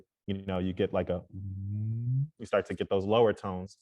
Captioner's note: makes low vocal sound